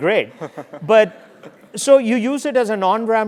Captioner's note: laugh